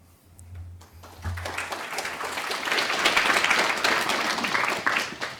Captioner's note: applause